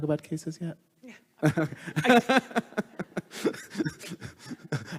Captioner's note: laughing